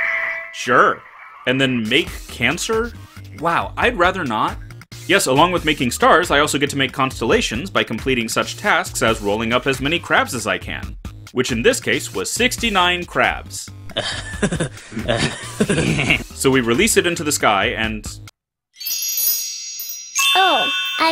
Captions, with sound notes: Sure. And then Make Cancer? Wow, I'd rather not. Yes, along with making stars, I also get to make constellations by completing such tasks as rolling up as many crabs as I can, which in this case was 69 crabs. (Beavis & Butthead laugh) So we release it into the sky and ...